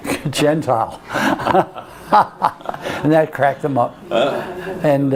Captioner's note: laughs